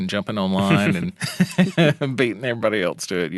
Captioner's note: laughing